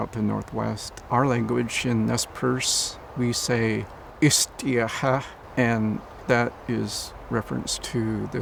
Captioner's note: speaking in foreign language